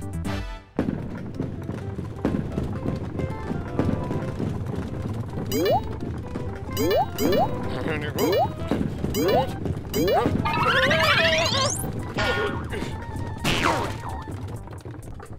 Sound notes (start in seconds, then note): 7.0 electronic beeping; 10.4 exclaims; 12.3 shouts; 13.7 groans